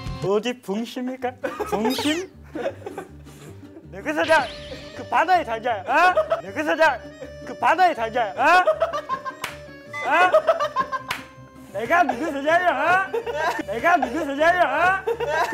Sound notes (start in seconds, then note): 4.1 starts yelling suddenly; 10.0 ends up bursting in laughter